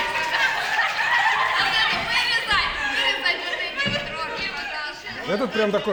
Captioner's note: laughter